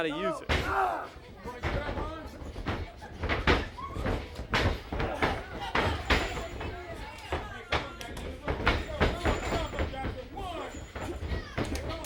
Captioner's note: crowd chatter